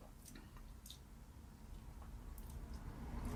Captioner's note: smacks lips